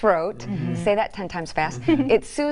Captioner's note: chuckling